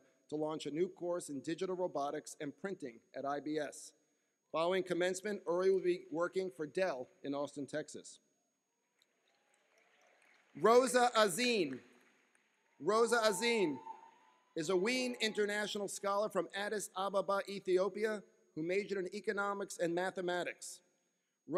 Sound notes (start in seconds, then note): 9.4 cheering